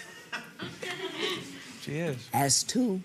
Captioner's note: audience laughing